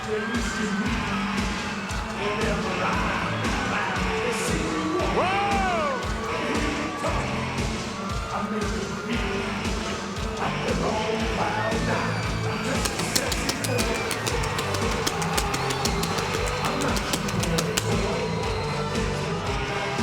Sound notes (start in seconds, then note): 12.7 pyro popping; 13.1 audience cheering